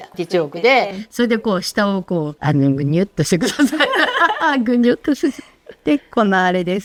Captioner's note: laughs